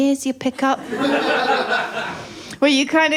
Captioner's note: laughter